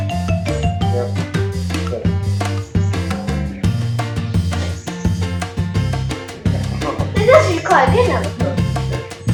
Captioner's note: laughing